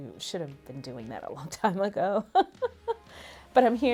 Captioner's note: laughs